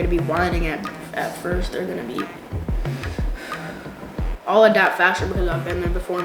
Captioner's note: sigh